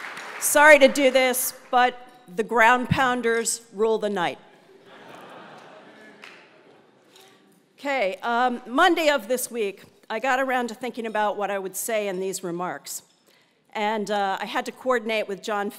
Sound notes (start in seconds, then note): 4.8 laugh